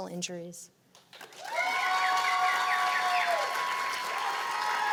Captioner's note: cheers and applause